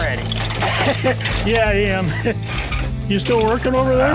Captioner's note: laughs